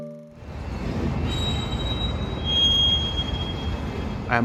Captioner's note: brakes squealing